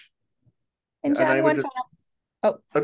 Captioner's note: faintly speaking